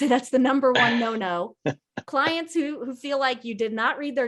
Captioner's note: laughs